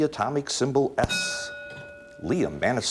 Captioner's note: ding